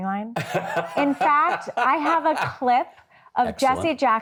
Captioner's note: Jon laughing